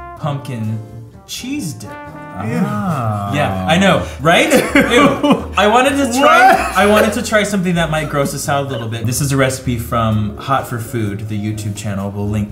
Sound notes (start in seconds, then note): 4.4 laughs